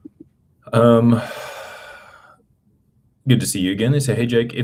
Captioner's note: sighs and gasps